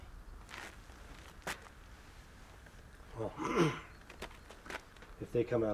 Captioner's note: clears throat